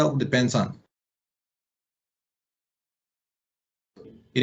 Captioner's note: missing audio